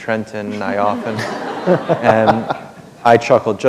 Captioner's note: chuckle